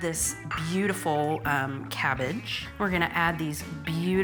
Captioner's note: dish tapping